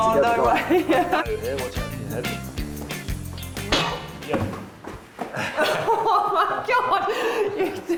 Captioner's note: bang